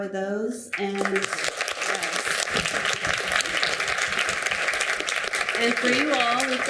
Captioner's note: audience applauding